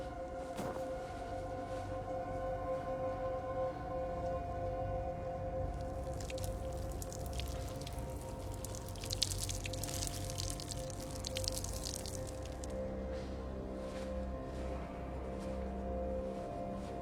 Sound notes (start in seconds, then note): 11.0 splashing